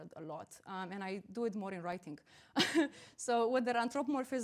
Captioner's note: chuckles